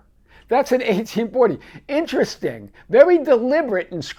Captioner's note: laughing